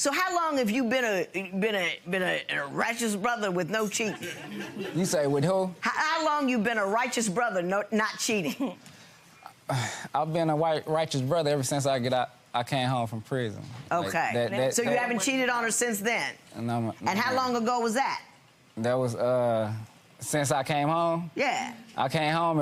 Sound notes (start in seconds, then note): 4.1 audience laughing; 9.6 sighs